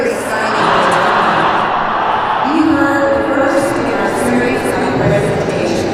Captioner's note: counter-protester raucous shouts from on high